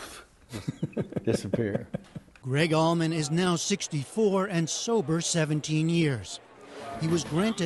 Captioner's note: laughter